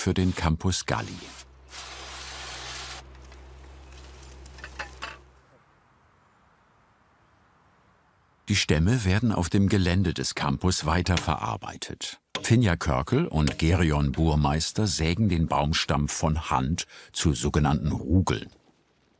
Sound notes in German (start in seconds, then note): 1.0 Zischen